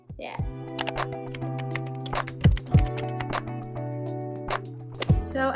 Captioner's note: keyboard typing